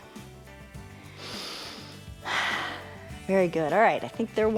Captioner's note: inhales and exhales